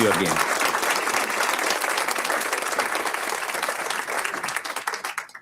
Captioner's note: audience applauds